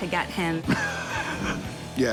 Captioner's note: laughs